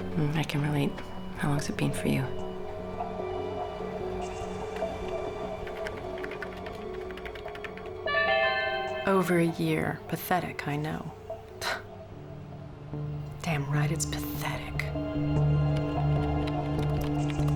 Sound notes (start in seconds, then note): 5.5 typing; 8.1 chime; 11.4 scoffs